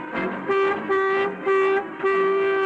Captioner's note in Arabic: ينفخ بوق